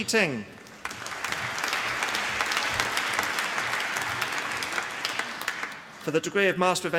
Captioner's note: applause